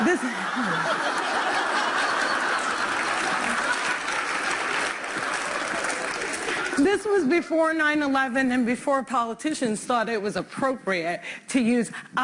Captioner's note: laughter; applause